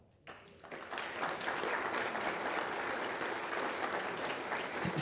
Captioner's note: people applauding